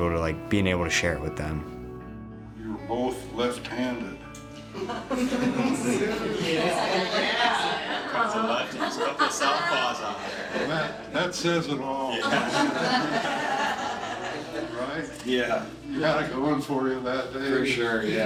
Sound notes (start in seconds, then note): 1.7 uplifting music; 4.8 laughing; 6.9 people chatting